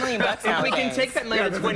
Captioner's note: laughter